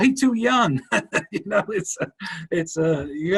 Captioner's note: laughing